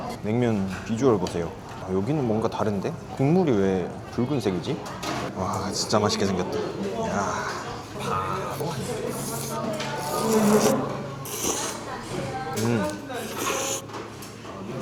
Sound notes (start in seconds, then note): 11.3 inhaling it